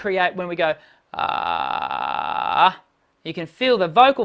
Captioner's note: creaky voice